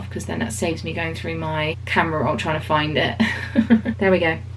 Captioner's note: chuckles